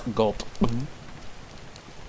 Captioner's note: gulp noise